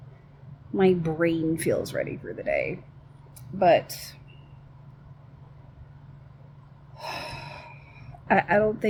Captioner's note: sighs